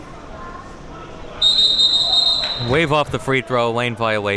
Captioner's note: whistle blowing